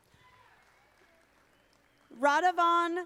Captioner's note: audience applauding